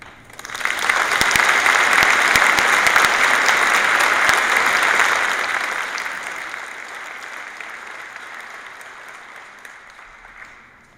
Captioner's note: applause